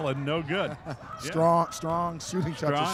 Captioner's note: chuckling